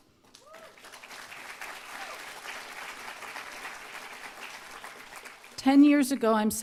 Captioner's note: applause